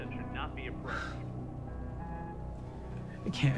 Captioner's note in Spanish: Suspiros